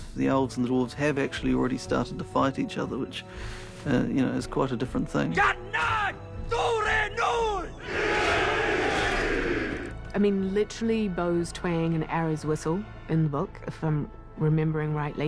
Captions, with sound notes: ...the Elves and the Dwarves have actually started to fight each other... ...which, you know, is quite a different thing. [SHOUTING IN KHUZDUL] [ALL SHOUT IN KHUZDUL] I mean literally, "bows twang and arrows whistle..." ...in the book if I'm remembering rightly.